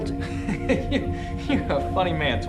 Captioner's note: laughs